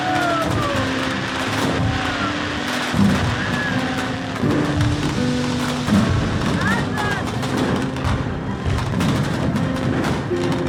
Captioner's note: crowd Cheers